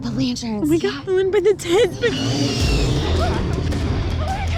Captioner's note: growls